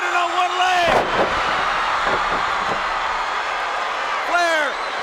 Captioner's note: crowd cheers